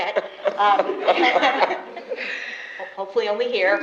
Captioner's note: laughter